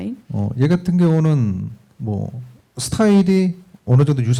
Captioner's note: speaking korean